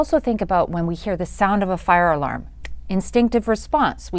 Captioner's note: snaps